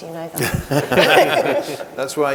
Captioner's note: group laughing